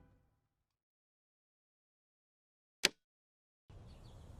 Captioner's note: birds tweeting